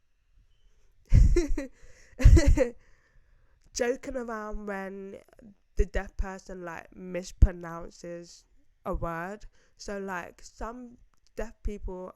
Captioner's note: laughs